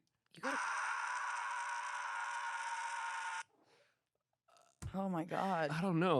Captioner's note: on recording screams